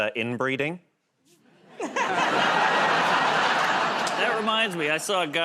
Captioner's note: laughter